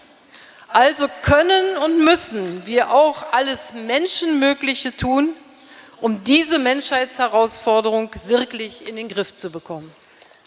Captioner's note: speaking in German